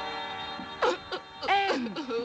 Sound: Ann sobbing

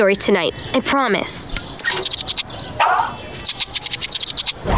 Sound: squeaking

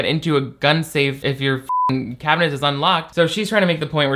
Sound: beep

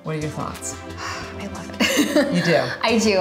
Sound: sighs

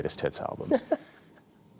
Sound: laughter

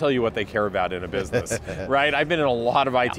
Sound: laughs

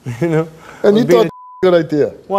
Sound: beep

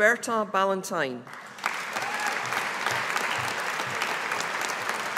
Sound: audience applauding

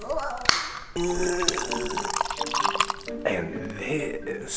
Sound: lid popping; liquid splashing

